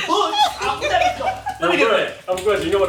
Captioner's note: laughing